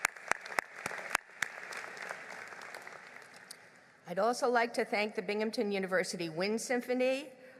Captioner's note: applause